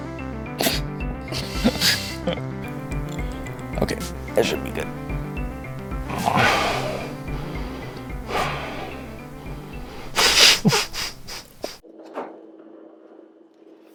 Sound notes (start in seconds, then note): 1.4 laughter; 5.8 deep exhale; 7.1 exasperated laughter